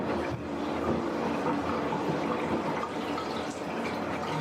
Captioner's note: water going down drain